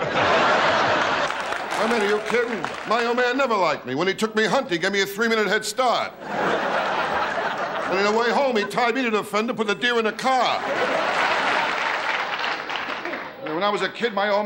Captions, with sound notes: (laughing) I mean are you kidding! My old man never liked me, when he took me hunting, he gave me a three minute headstart! (laughing) And then on the way home he tied me to the fender, and put the deer in the car! (laughing) (clapping) When I was a kid,